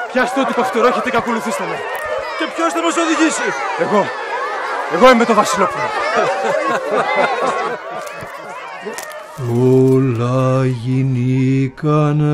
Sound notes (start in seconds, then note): 5.3 laughter